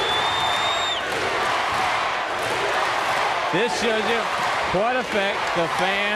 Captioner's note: crowd cheering